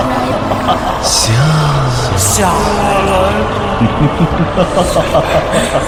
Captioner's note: voices